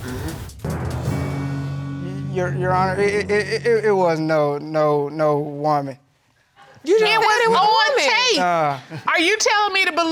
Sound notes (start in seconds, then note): 3.3 stammers